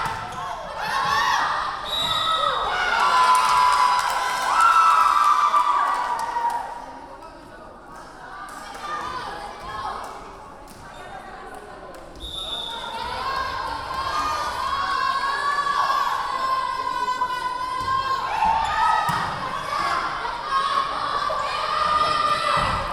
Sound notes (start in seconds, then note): 0.2 yelling; 1.8 whistle blowing; 3.0 clapping; 4.2 cheering; 9.0 yelling; 12.2 whistle blowing; 15.0 yelling; 20.6 yelling